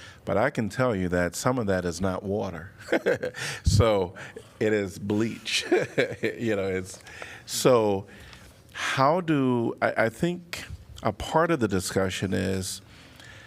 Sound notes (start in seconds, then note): 2.8 laughter; 5.5 laughter